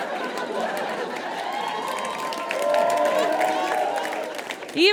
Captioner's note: audience laughs; audience cheers and applauds